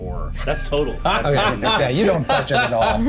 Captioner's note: laughter